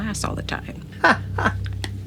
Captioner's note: laughs